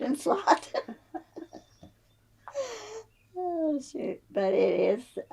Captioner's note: laughs